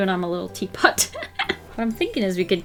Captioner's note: laughs